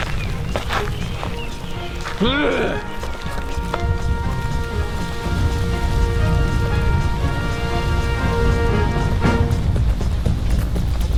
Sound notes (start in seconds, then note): 0.1 gravel crunching; 2.2 Og grunting; 7.7 volcano rumbling